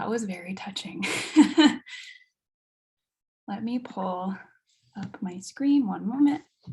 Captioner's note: chuckles